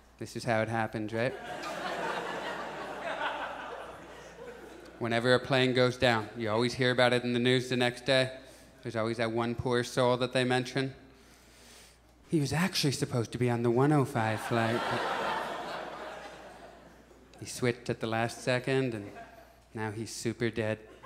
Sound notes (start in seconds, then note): 3.6 audience laughs; 14.3 audience laughs